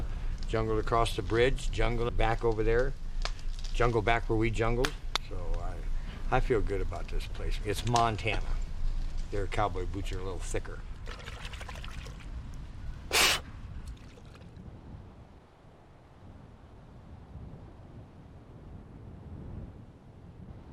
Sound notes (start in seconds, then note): 11.0 water splashes; 13.0 he blows